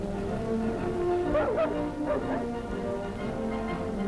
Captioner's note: Dog: Wuff Wuff